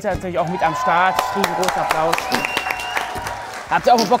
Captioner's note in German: Jubel, Applaus, Furzgeräusch